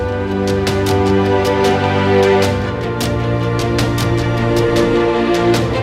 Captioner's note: none